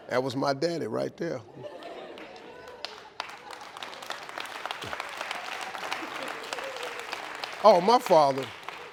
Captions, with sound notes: That was my daddy right there. (audience laughing) (audience clapping)